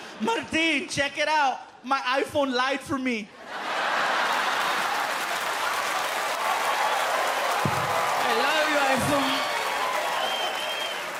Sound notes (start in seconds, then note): 3.4 laughter, applause